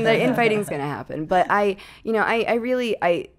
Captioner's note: laughing